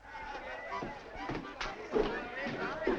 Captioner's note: crowd talking and laughing